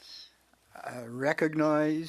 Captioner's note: speaking French